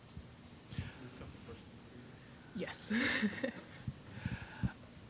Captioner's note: indistinct chatter